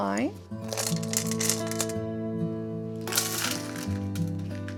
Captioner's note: chocolate pieces rattling